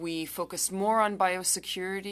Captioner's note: speaking french